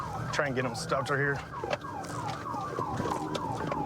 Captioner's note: sirens blaring